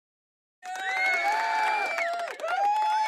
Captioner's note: audience cheering